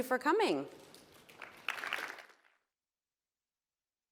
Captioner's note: applause